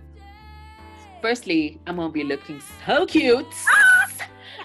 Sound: laughs

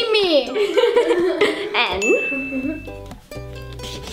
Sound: laughs

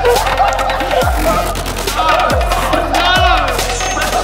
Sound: laughing

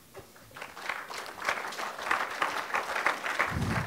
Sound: audience clapping

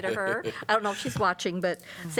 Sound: laughter

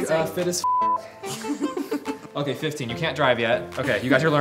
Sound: both giggling

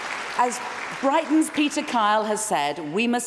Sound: applause

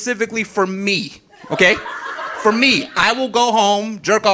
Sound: audience laughing

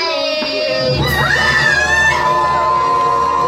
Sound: the sisters scream in horror

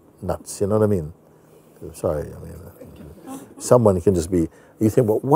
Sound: Lachen

